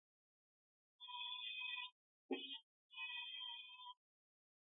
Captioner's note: buzzer sounding